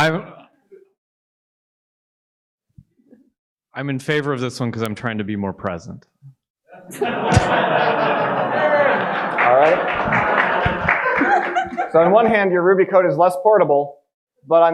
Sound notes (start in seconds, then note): 6.8 audience laughing and applauding